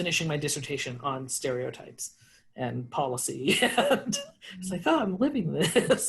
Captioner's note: laughs